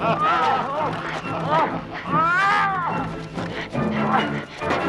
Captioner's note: Landrazza laughing; Hundra and guard shouting